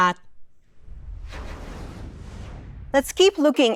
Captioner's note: graphic whooshing